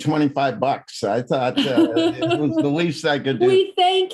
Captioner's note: laughs